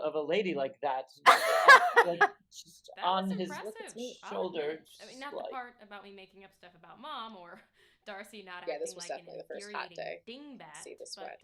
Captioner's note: laughter